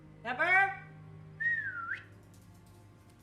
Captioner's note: whistling